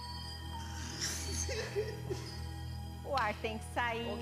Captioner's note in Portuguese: risada